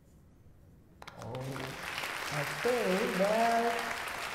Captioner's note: applause